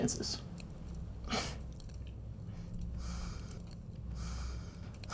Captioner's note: fire crackling